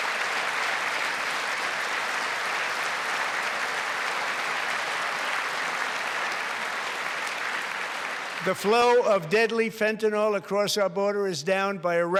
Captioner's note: applause